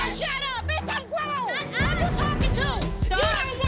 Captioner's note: arguing